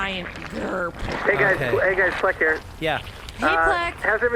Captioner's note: over comms